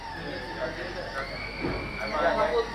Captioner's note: high-pitched whirring